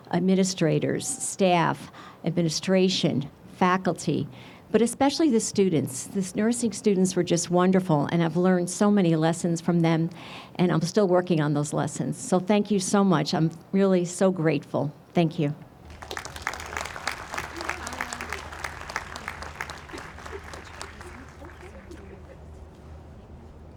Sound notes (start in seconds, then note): 15.8 audience applauds